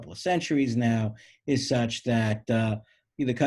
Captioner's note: none